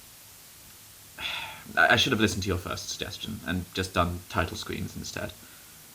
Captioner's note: sigh